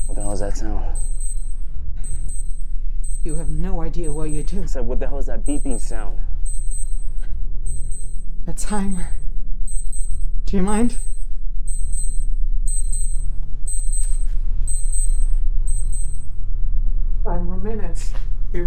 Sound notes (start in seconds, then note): 12.6 timer beeping